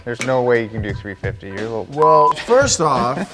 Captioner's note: beep